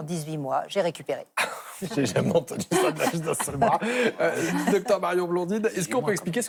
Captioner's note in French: rires